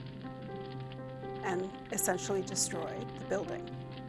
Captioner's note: fire crackling